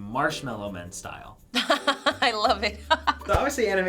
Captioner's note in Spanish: risas